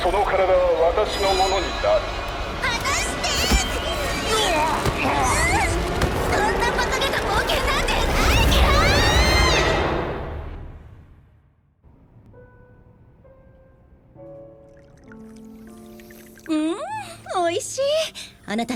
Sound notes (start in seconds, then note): 4.1 both wailing; 12.0 peaceful piano music